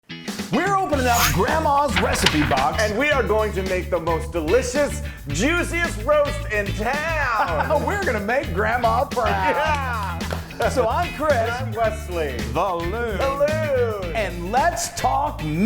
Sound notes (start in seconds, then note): 1.0 upbeat music plays; 1.1 zipping noise; 7.4 laughing; 9.2 laughing and clapping